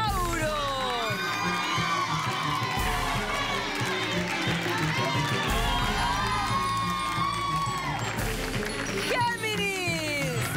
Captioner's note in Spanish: Griterío; Aplausos